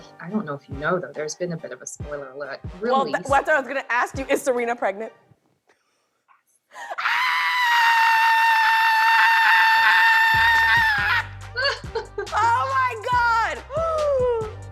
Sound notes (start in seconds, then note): 5.8 whispering; 6.8 screams; 11.6 laughs